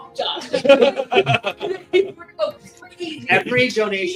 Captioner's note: laughing